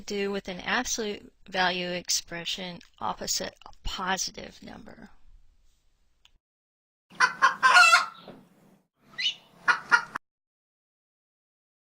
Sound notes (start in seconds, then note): 7.2 rooster crows